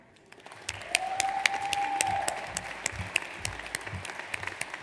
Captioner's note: audience applauds